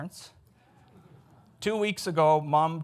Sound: audience chuckles

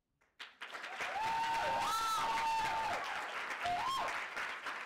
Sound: audience applauding

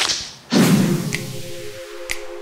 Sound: air whooshing

